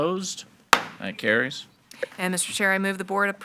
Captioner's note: gavel bangs